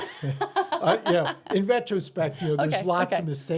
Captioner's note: laughing